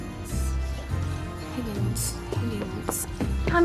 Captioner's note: whispering to self